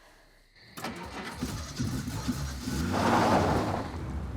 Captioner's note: engine rumbling